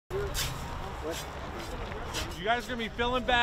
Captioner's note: shoveling